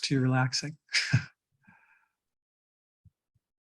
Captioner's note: chuckles